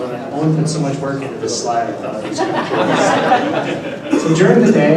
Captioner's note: laughter